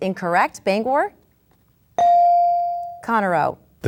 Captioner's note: bell dings